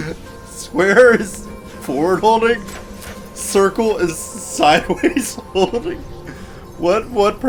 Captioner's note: laughs